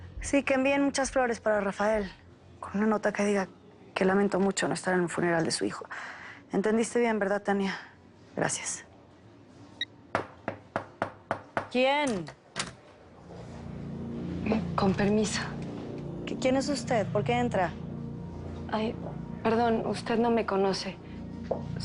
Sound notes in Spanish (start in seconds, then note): 9.5 Bip; 10.1 Toques en la puerta